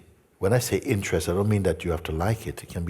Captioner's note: none